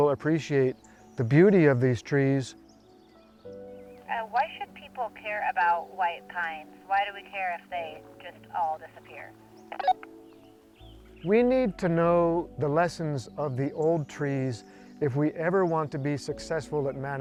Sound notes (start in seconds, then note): 9.7 radio beep